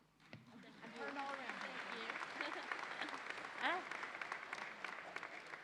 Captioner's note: audience applauds